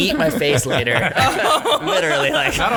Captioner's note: laughing